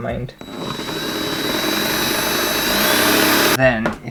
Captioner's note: power Drill Noises